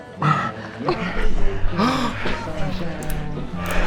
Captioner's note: moaning